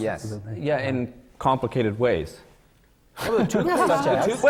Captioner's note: laughter